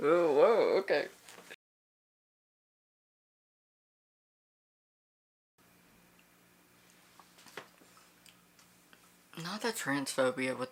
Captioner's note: silence